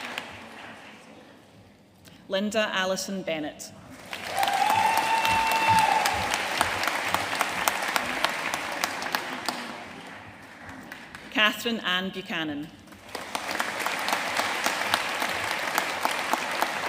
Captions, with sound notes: Linda Alison Bennet. (AUDIENCE CHEERING AND APPLAUDING) Kathryn Anne Buchanan. (AUDIENCE APPLAUDING)